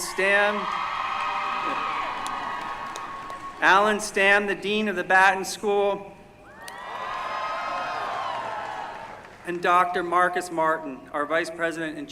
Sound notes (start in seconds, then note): 0.0 cheering; 6.5 cheering